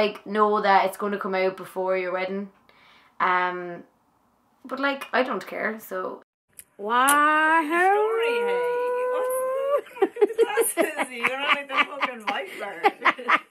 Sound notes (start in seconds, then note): 6.9 whooping; 11.1 laughing